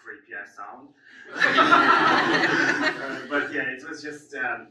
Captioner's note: audience laughs